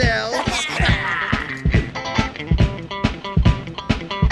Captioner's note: animals laughing